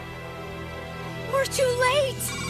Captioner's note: screams